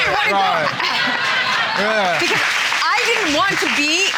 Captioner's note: laughter